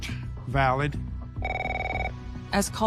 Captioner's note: phones ringing